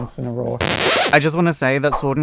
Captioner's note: record scratch